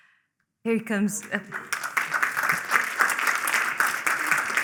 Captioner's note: applause